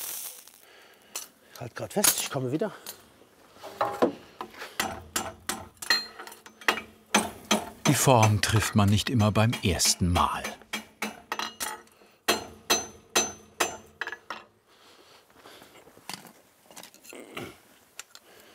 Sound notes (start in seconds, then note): 7.0 metal clanking; 17.2 he groans